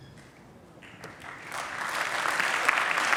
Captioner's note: applause